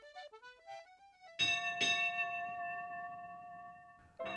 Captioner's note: bell tolls